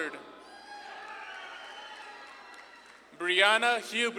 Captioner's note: audience claps and cheers